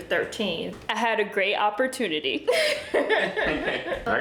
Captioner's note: laughing